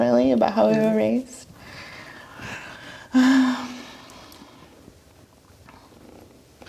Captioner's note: sighs